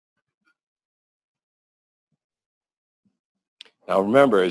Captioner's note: pause